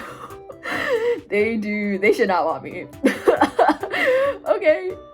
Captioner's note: laughing; laughing